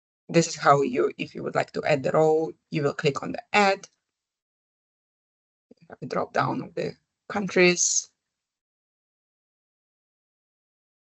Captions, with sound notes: This is how you-- if you would like to add a row, you will click on the Add. Here we have the drop-down of the countries. [silence]